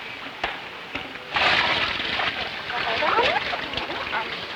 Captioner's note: water splashing